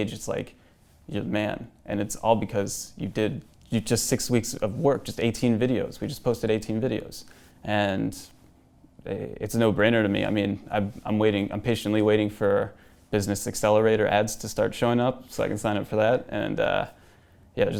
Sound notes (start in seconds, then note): none